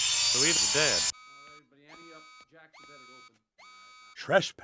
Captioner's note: alarm Goes Off